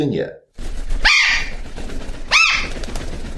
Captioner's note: parrots screaming, wingbeat